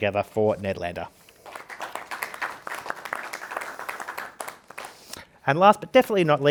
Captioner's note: participants clapping